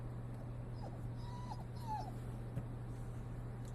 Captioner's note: dog whimpers